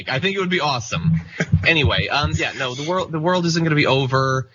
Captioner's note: laugh